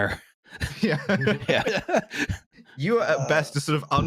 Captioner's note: laughter and agreement